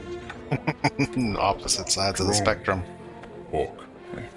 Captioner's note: chuckling